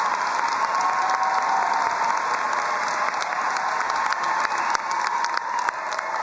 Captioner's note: crowd cheering and applauding